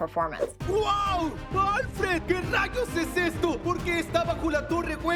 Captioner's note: speaking Spanish Enthusiastically